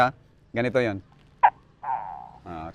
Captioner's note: mimics gecko sound